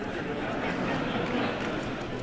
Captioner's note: applause